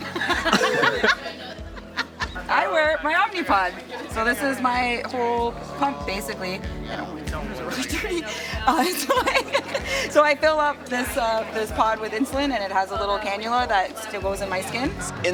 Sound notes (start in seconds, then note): 0.0 laughter; 7.5 laughs